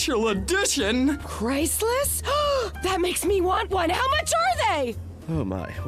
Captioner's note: gasps